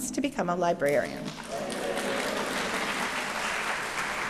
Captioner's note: applause